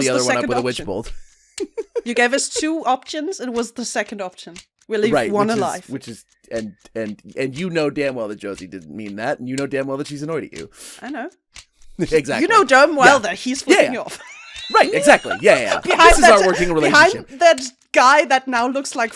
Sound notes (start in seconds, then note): 13.0 laughs; 16.2 laughter